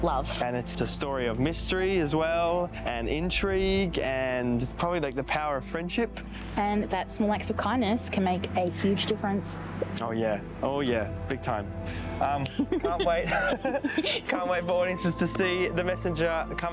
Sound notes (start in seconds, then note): 12.4 laughs